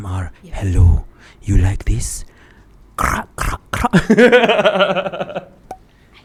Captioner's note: laughs